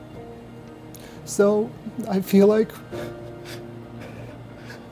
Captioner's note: sighs